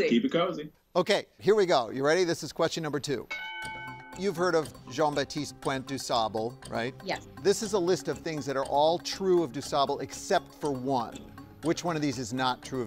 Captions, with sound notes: - Okay, here we go. You ready? This is question number two. (bell dinging) - You've heard of Jean Baptiste Point DuSable, right? - Yes. - This is a list of things that are all true of DuSable except for one. Which one of these is not true of Dusable?